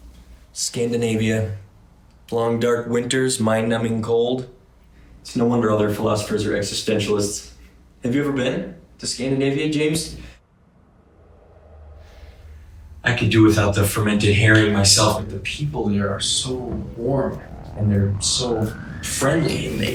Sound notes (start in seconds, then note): 11.2 air whooshing